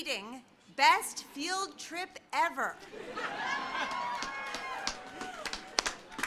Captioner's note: laughter